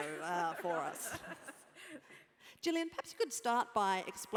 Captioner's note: laugh